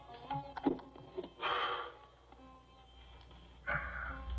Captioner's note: exhales